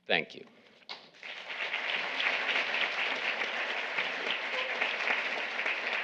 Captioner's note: audience applauding